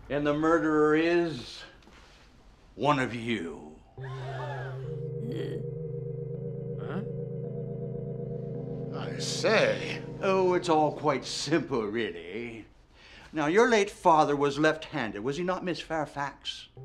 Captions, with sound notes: - And the murderer is one of you. (congregants gasp) - Huh? - I say! - Oh, it's all quite simple, really. Now, your late father was left-handed, was he not Miss Fairfax?